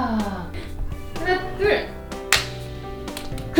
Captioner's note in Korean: 탕!